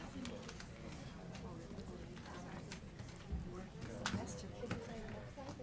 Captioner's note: people chattering